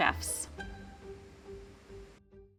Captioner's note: music note pinging